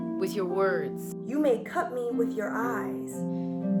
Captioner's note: Yara speaking